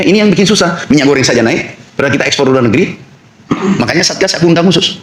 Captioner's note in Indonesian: berdehem